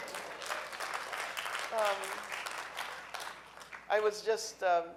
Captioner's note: audience cheering